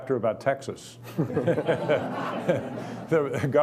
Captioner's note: laughing